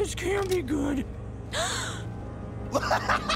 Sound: gasping; laughing

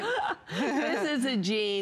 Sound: laughter

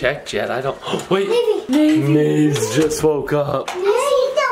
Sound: gasps

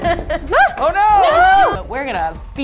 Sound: yelling

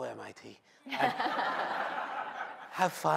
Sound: laughter

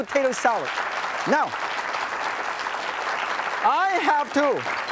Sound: audience claps

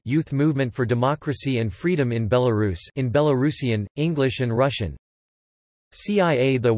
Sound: in Belarusian, English and Russian

